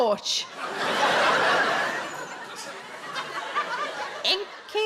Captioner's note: audience laughs